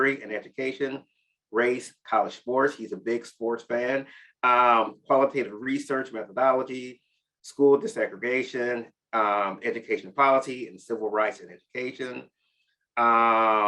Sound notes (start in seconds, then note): none